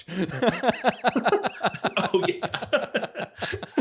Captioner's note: laughs